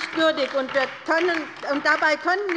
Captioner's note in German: Beifall bei der LINKEN